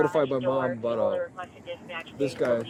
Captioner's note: radio chatter